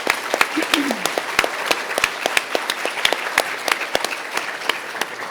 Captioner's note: audience applauding